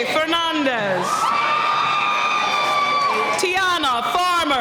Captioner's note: cheering